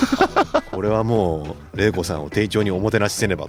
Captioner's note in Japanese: 笑い